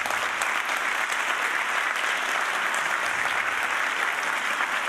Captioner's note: audience cheering